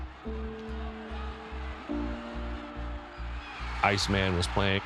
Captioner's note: crowd cheering